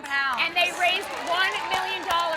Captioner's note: crowd applauding